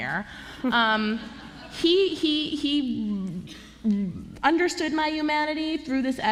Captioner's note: laughter